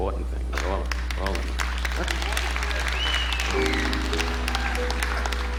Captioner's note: audience applauding